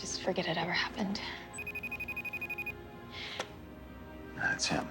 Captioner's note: cell ringing